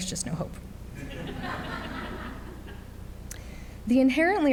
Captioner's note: audience laughs